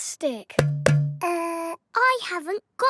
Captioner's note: hollow clunking